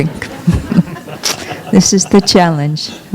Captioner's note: laughter